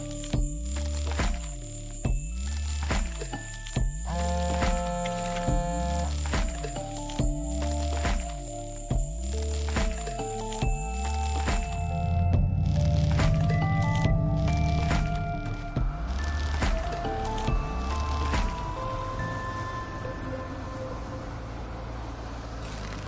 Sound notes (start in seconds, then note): 0.1 mysterious music continues; 4.4 phone buzzing; 15.6 mysterious music continues